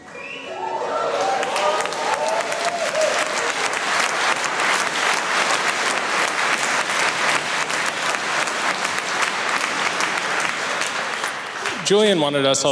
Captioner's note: applauses and cheers